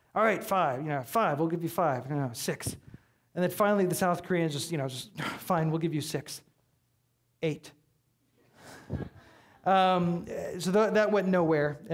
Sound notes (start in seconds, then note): 8.8 audience laughing